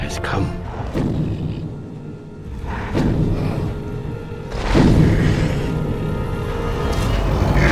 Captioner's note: Shin Godzilla's thunderous footsteps approach